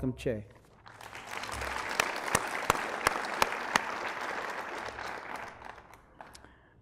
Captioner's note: applause